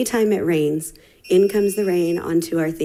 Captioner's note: timer beeping